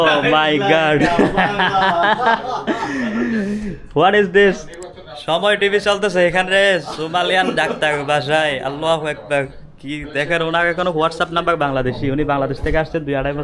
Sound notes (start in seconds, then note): 1.0 loud laughter